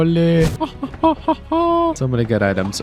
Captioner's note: laughs